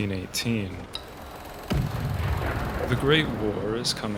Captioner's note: gunfire